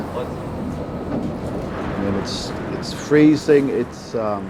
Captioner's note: car engine revving